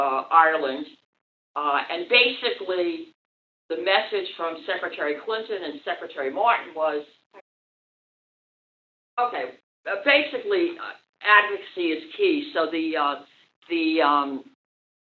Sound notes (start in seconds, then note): 6.9 no Audio - Technical Difficulties